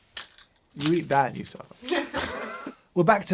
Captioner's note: laughter